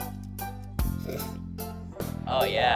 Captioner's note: giggles